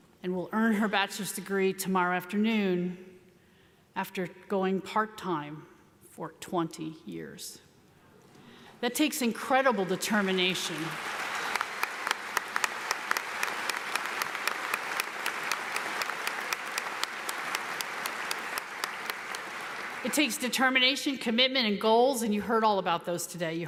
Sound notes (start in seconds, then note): 11.5 audience applauds